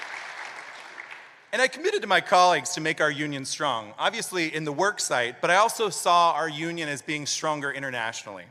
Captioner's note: applause